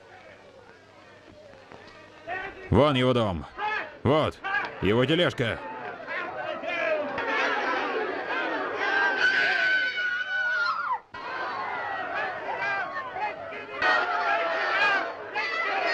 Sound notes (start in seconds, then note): 0.2 crowd shouting; 8.4 screaming; 11.7 crowd shouting